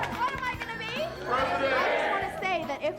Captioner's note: crowd